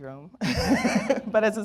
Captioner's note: laughs